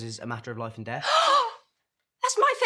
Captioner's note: gasps